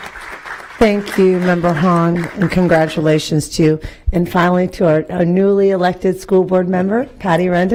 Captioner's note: applause